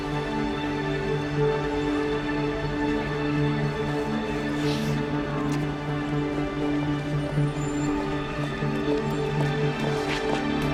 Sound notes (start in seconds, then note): 0.2 suspenseful music; 4.5 sniffles